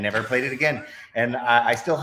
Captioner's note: both laughs